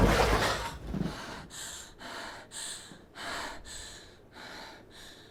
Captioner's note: Cindy breathing heavily